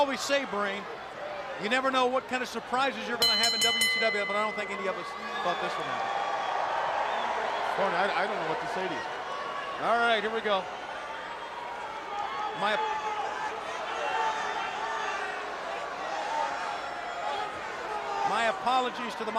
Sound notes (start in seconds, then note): 4.7 bell ringing; 7.5 crowd cheering